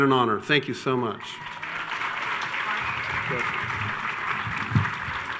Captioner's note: attendees cheering